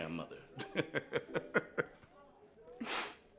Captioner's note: chuckles